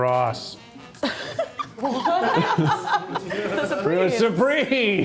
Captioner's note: chuckles